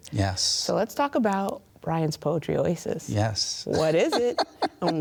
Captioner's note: laughs